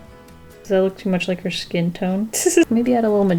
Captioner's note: laughs